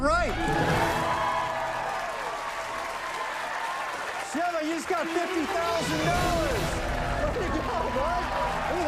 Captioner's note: cheers and applause